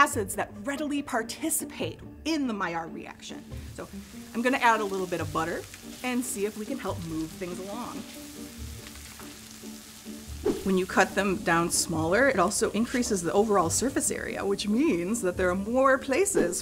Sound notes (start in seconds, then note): 8.4 sizzling; 8.4 upbeat music